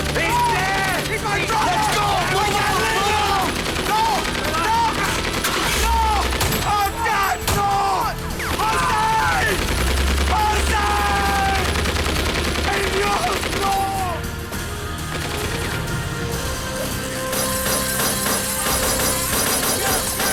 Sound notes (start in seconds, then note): 0.0 guns firing; 0.0 slow music; 5.9 truck engine revs; 11.1 guns firing; 12.8 Hector speaking in foreign language; 17.5 glass shatters